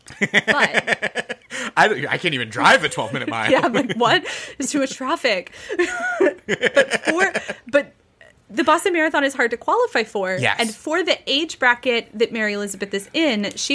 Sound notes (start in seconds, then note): 2.6 laughs